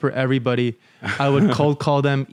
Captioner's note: laughs